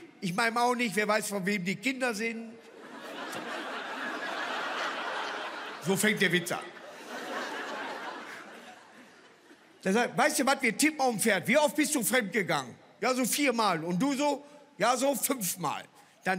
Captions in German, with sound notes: "Ich meinem auch nicht, wer weiß, von wem die Kinder sind." (Lachen) So fängt der Witz an. "Weißt du was, wir tippen auf ein Pferd." "Wie oft bist du fremdgegangen?" "Viermal, du so?" "Ja, so fünfmal."